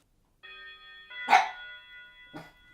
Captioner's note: doorbell rings; dogs bark